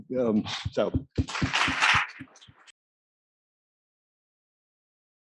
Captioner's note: audience applauding